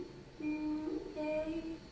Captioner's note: murmuring